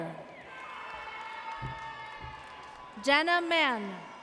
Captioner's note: audience cheers